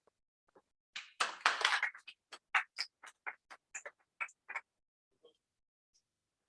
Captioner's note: applause